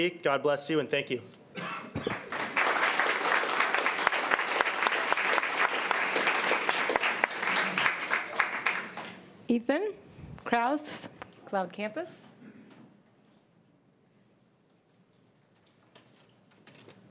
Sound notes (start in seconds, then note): 2.0 crowd clapping